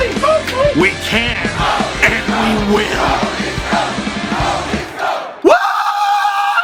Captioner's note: Go leafs Go crowd cheering fades with the photos